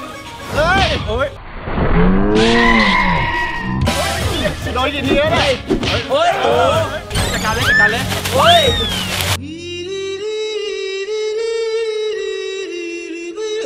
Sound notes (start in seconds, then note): 2.4 hit; 7.1 leaves moving; 8.4 screams; 9.4 funny music playing